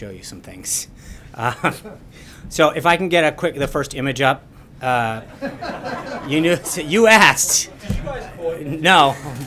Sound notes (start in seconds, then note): 5.2 laughter